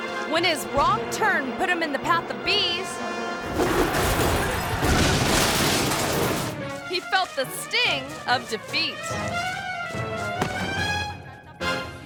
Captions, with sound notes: When his wrong turn put him in the path of bees, (car crashes) he felt the sting of defeat.